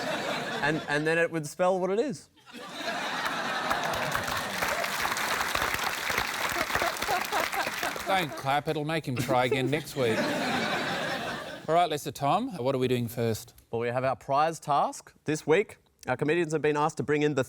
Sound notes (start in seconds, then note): 3.1 applause